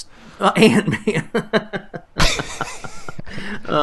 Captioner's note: laughter